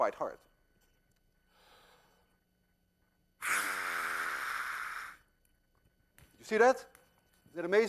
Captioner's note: inhales deeply, blowing hard